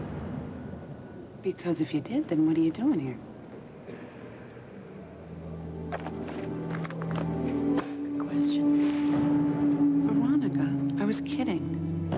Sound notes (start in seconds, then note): 6.7 slams down books